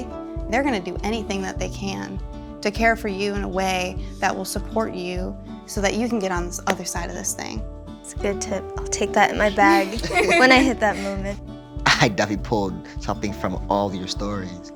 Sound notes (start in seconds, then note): 9.6 laughter